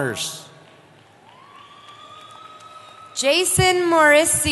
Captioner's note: cheering